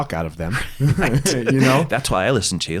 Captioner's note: laughs